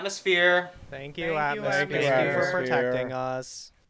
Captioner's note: several voices